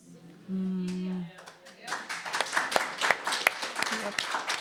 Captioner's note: audience clapping